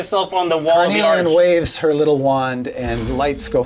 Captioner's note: crystals chime